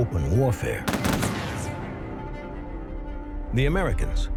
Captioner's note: gunshots